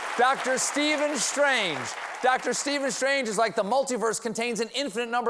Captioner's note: cheers and applause